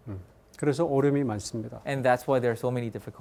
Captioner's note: speaking in Korean